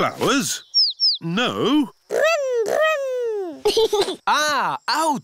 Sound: giggles

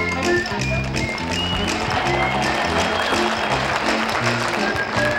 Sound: audience cheers

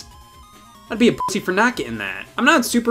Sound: beep

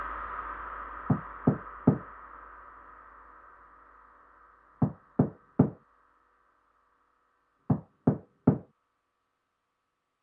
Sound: door knocking

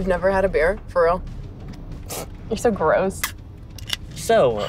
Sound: opens can

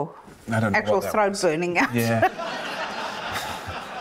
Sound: laughs; chuckles

